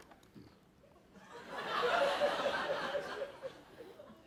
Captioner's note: laughter